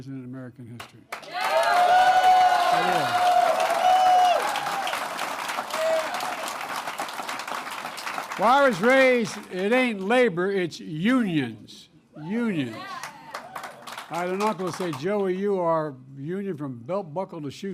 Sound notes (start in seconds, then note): 3.6 applause; 12.6 applause